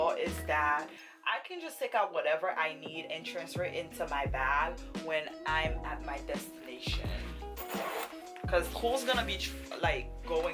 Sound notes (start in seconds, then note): 7.2 zipper opening